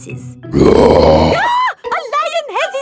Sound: roars; screams

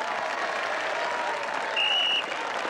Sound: applause; whistle blows

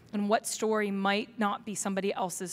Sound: none

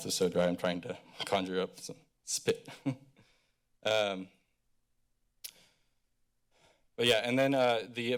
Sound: chuckles

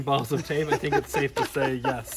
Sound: laughs

